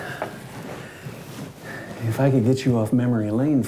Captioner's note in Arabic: none